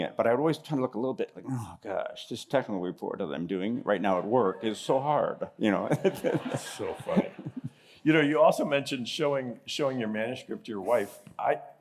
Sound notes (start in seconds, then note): 5.8 laughter